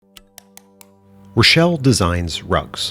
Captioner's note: text clicking